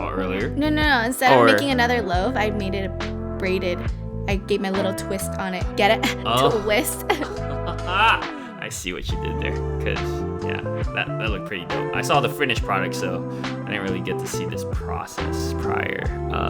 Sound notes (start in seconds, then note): 5.8 laughs